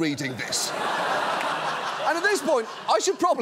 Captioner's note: laughter